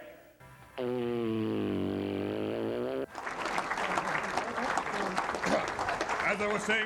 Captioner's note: applause